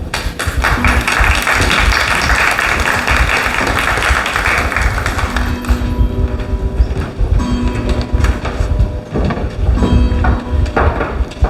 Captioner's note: clock chiming